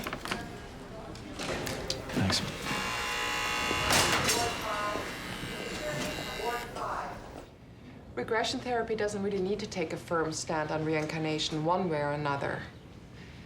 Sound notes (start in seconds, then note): 1.9 buzzer ringing